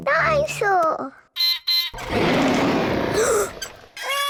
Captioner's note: beeps and roars; gasps and cries